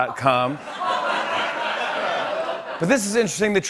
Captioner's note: laughter